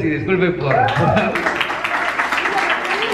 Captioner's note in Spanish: aplausos